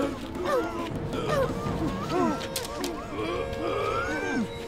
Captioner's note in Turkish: Bağırma sesleri